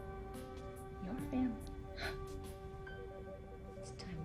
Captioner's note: scoffs